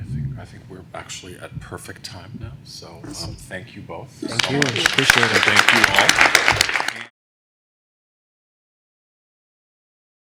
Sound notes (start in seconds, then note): 6.3 applause